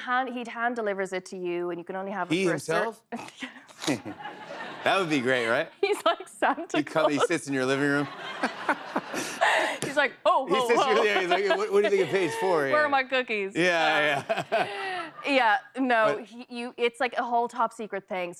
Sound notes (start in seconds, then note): 3.6 laughing; 6.7 laughter